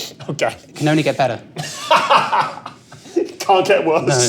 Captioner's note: laughs